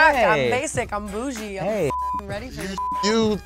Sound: beep

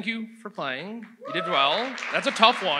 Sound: audience applauds

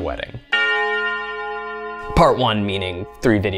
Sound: bell tolls

